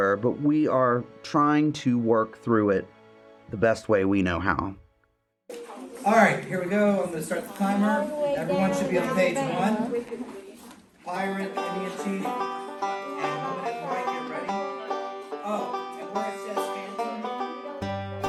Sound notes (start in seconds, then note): 10.1 indistinct chatter